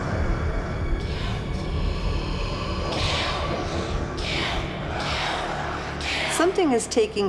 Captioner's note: whispers of kill kill kill